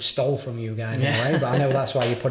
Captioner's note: laughing